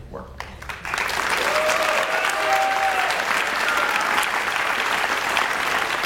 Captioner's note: audience cheers and applauds